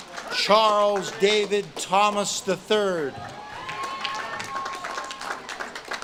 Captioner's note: audience claps and cheers